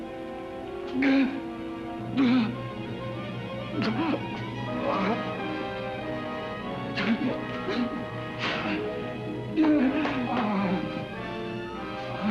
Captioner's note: ominous music; Kurt gasps & groans